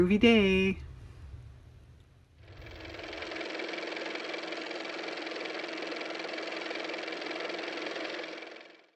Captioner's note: car motor